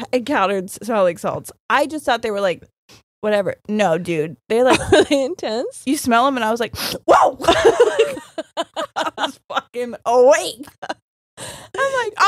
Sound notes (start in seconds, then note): 6.6 sniffs; 7.4 both laughing